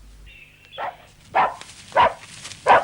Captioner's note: barking